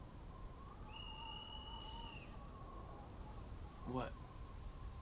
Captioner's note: whistle blows